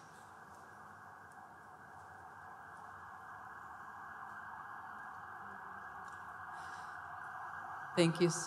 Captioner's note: sound of emergency service sirens outside